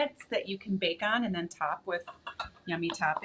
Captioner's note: stoneware clattering